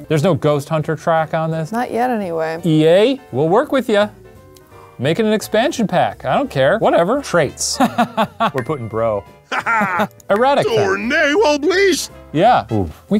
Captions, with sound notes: There's no ghost hunter track on this. - Not yet, anyway. - EA, we'll work with ya. Make it an expansion pack, I don't care, whatever. Traits (laughs). We're puttin' bro. (character laughs) - Erratica. (character speaks Simlish) Yeah, oh.